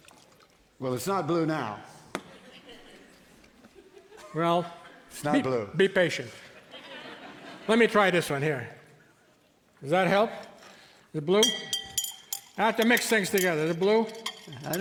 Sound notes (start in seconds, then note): 2.2 audience laughing; 6.4 audience laughing; 11.3 stir stick clinking